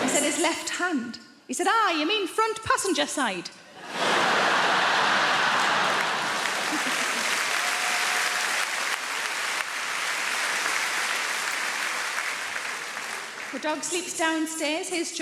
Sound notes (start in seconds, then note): 3.8 audience laughing; 4.1 audience applauding